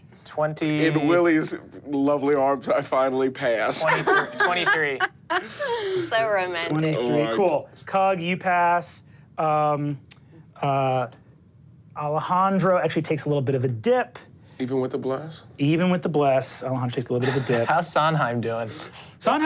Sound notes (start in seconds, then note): 3.7 laughs